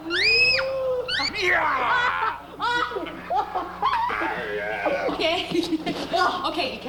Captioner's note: Bill yells; Danny laughs